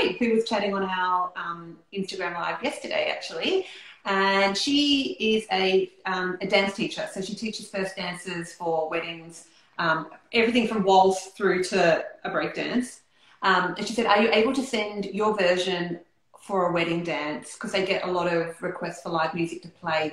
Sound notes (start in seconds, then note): none